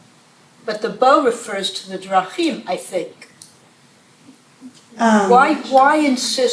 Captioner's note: hebrew